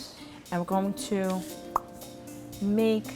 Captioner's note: lips pop